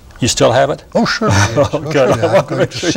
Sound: chuckles

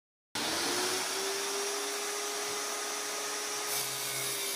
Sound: tile saw revving

